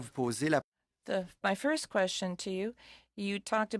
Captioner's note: speaking French